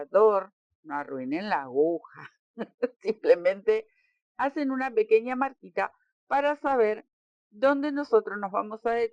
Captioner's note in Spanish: risas